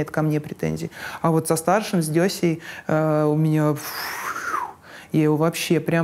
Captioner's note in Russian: шумно выдыхает